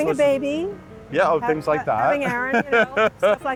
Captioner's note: laughs